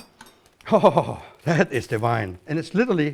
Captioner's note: chuckles